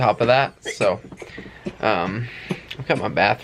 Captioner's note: coughing